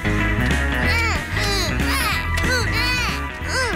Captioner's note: both grunting